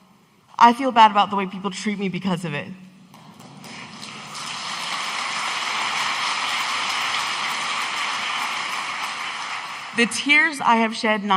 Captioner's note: audience applauding